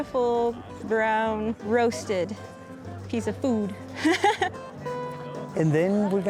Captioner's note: laughs